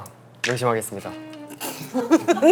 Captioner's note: haha